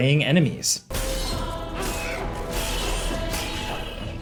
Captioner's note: sword clanging